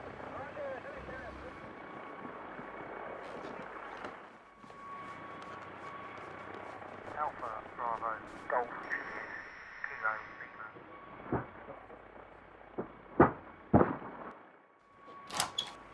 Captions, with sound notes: (Radio chatter) Alpha Bravo Golf